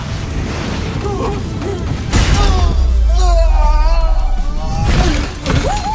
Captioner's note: whimpers, groans; MechaBot cheers